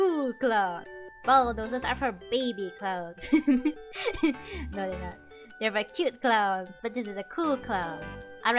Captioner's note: laughter